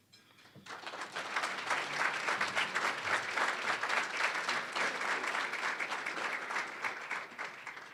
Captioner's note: applause